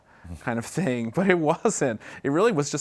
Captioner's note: laughs